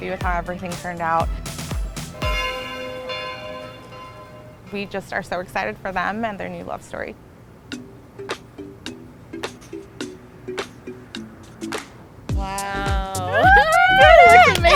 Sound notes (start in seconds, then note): 2.2 bell ringing; 8.1 upbeat music